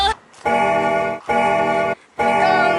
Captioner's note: bell rings